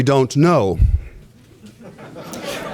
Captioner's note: laughter